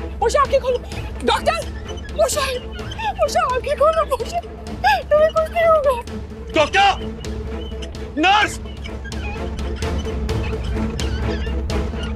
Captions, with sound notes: Open your eyes, Poshai. Doctor! Poshai! Open your eyes, Poshai. [sobs] You'll be fine. Doctor! Nurse! - [wheels creaking] - [intense music playing]